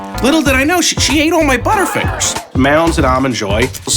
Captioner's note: gasping